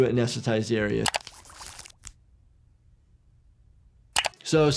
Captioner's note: needle swooshing